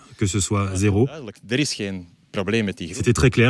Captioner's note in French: none